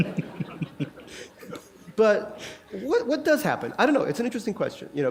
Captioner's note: laughter